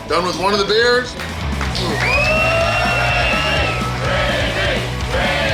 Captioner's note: cheering & Clapping